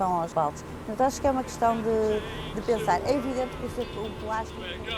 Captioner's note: boat sound drowns speech